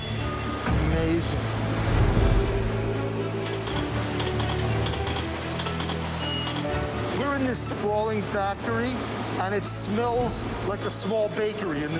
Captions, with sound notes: Amazing. [machinery running] We're in this sprawling factory, and it smells like a small bakery in the neighborhood.